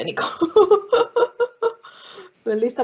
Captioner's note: laughing